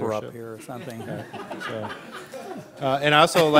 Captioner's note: laughing